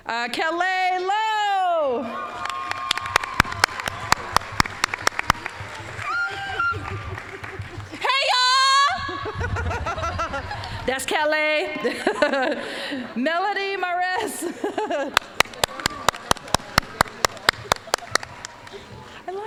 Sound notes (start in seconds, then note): 2.2 applause, cheering; 5.9 excited squealing; 8.1 yelling; 8.8 all laughing; 12.3 laughing; 15.1 applause